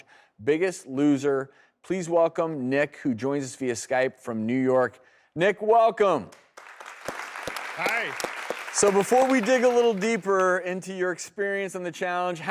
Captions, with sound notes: biggest loser. Please welcome, Nick, who joins us via Skype from New York. Nick, welcome! (audience clapping) Hi! So before we dig a little deeper into your experience in the challenge,